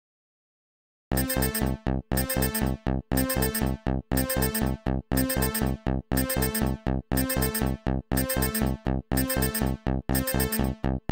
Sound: sound of emergency alarm

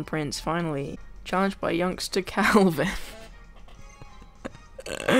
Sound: laughs

